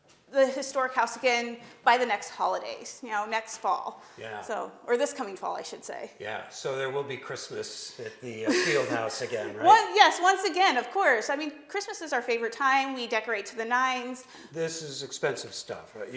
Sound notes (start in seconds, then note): 8.3 laughs